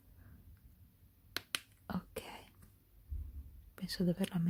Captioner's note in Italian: none